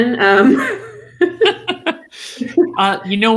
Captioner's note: laughs